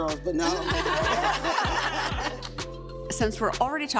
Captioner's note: laughing